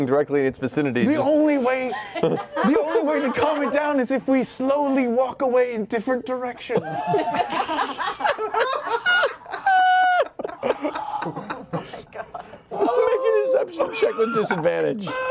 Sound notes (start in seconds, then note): 6.7 laughter